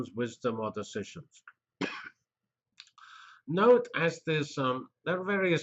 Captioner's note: cough